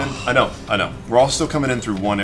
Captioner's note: groans